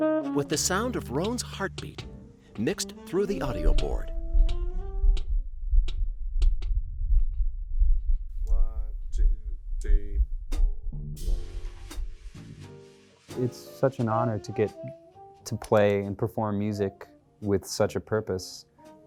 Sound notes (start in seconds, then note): 0.0 relaxing jazz music; 3.4 heartbeat pounding; 11.4 relaxing jazz music